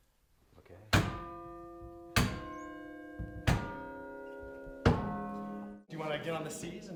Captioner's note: chimes